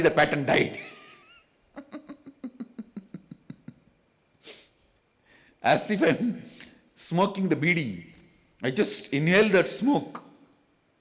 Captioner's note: laughs